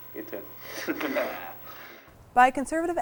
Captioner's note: both chuckling